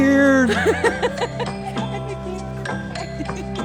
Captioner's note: laughter